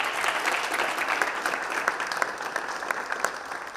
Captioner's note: audience claps